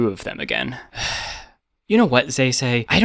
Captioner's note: sigh